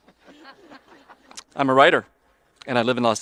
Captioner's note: audience laughing